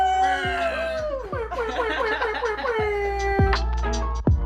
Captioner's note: laughing; upbeat music